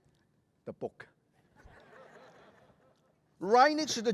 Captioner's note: laughter